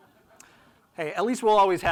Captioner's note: audience laughing